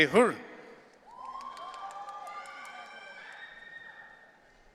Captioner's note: audience cheering